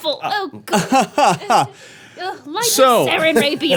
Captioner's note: laughing